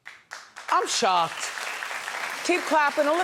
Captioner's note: audience clapping